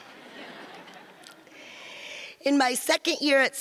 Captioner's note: audience laughs